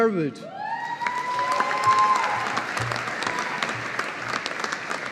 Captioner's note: audience applauding